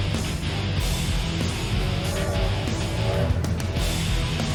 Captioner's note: train whistle blows